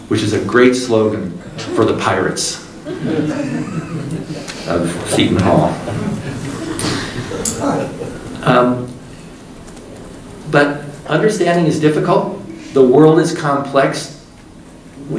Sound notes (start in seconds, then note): 6.1 group laughing